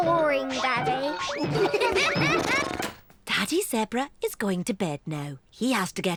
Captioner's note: all giggle